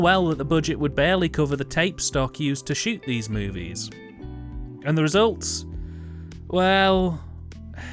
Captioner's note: sigh